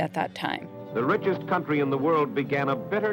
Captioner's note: soundbite of archived recording